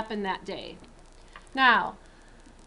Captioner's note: silence